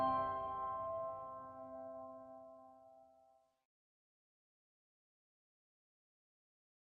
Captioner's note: silence